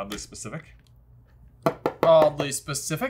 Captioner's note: stylus tapping